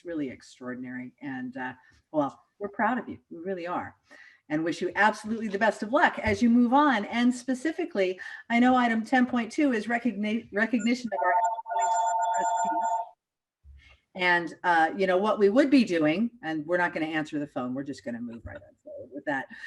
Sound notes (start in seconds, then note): 10.8 phone rings